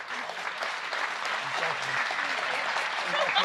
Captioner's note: applause